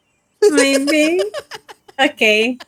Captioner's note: laughing